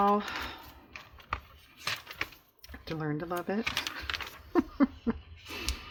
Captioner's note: laughs